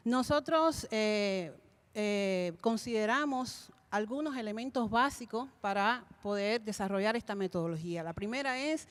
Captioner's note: Spanish language 00:36:13